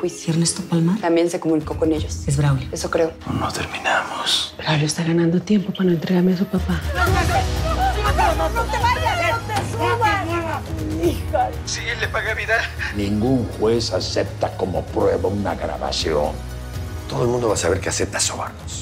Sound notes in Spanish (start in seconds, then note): 6.9 Gritos y exclamaciones